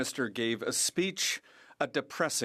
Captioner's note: speaking French